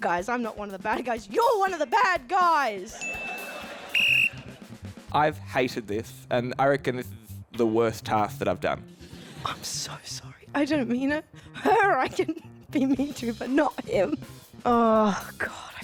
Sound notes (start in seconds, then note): 3.0 blows whistle